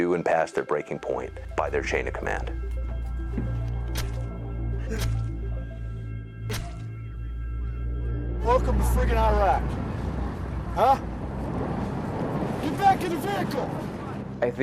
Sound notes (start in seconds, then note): 4.8 knife slashes; 4.9 dark music